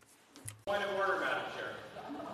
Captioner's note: speaking in French